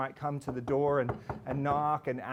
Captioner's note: knocking